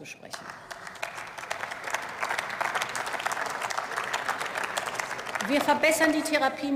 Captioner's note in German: Beifall